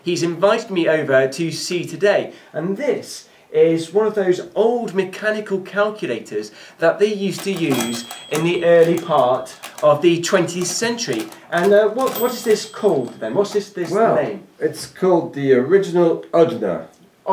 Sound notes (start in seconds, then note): 10.0 calculator dings